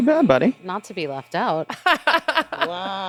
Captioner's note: laughing